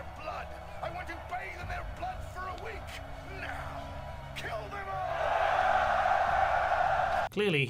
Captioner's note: cheering